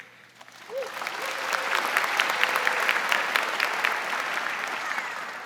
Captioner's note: audience applauding